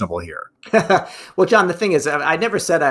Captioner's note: laughs